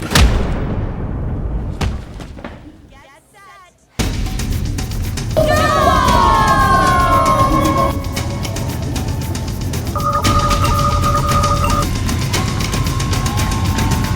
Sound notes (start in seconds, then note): 4.4 tense music; 6.9 audience cheering; 10.1 machine beeping